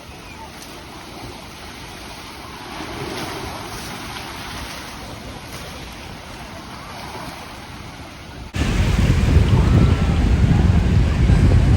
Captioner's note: ocean waves